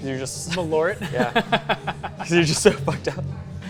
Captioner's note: laughs